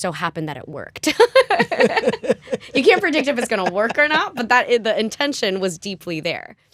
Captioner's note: laughter